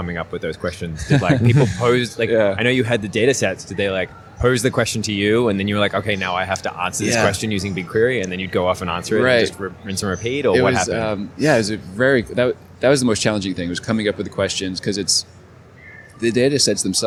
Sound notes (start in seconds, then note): 0.9 laughs